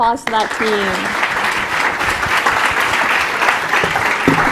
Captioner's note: applause